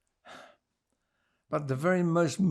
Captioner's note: sighing